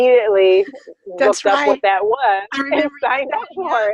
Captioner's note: laughs